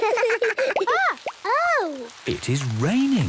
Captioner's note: water dripping